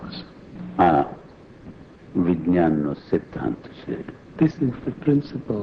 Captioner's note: speaking foreign language